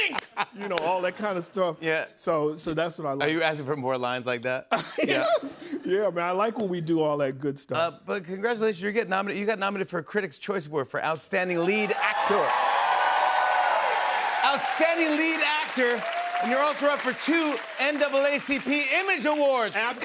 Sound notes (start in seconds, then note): 4.9 chuckles; 12.8 cheers and applause